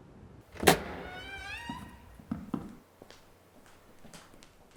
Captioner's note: door creaking